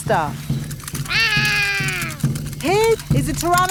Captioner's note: roaring